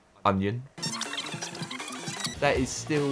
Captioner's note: tape fast-forwards